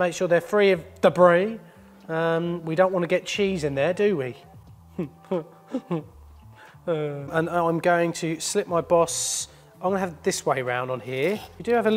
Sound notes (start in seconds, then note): 5.6 laughing